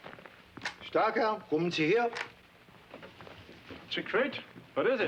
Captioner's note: speaks foreign language